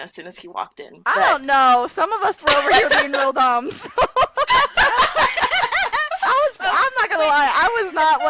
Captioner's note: laughter